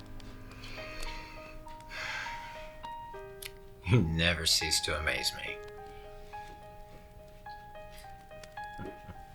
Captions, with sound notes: (sighs) - You never cease to amaze me. (gentle piano music)